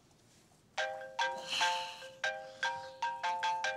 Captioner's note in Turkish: Telefon çalıyor